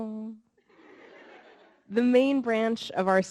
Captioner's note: audience laughing